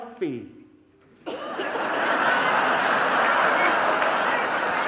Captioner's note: audience laughing